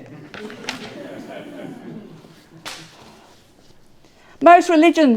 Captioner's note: audience laughing